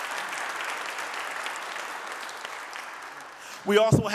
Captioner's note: audience clapping